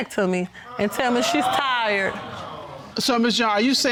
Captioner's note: audience exclaims